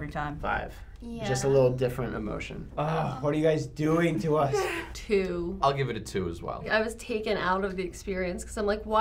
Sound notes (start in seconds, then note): 4.3 laughs